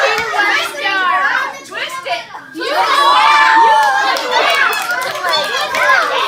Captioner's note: cheering